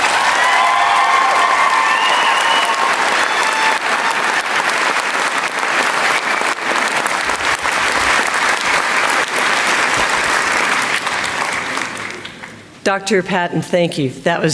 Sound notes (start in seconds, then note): 2.3 applause